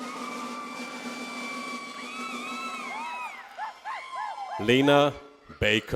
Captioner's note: audience cheers